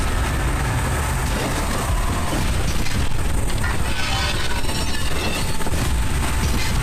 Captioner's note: glass shattering; metal crunching; soft intense music